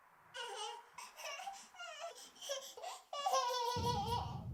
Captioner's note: baby giggling